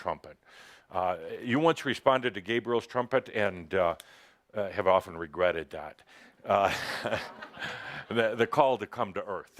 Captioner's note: laughter